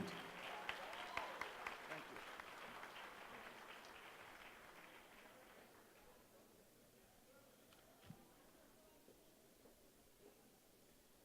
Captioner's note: applause